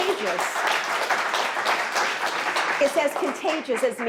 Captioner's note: audience clapping